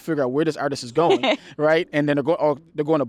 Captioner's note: laughs